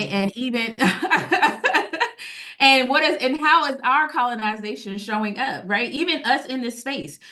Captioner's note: laughing